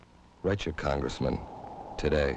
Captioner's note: wind whistling